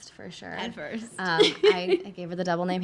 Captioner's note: laughing